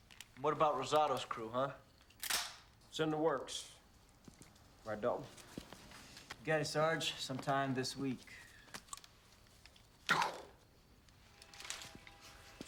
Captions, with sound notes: - What about Rosato's crew? Huh? (guns clicking) - It's in the works. Right, Dalton? - You got it, Sarge. Sometime this week. (Castellano mimics gunshot)